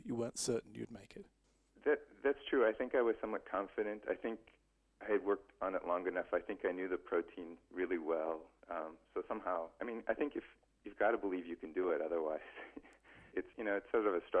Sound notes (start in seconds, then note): 12.1 laughs